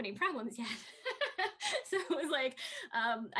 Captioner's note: Tui laughs